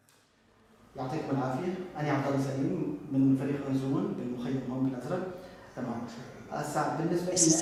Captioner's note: non-english speech